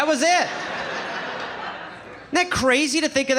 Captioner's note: audience laughing